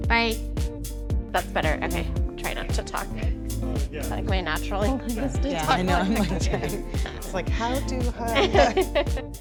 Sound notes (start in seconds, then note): 4.6 chatter; 8.2 laughing